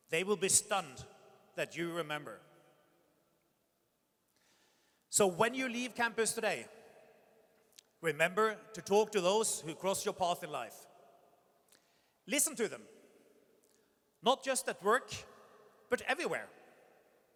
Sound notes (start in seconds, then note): none